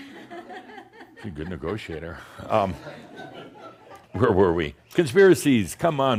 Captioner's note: a few chuckles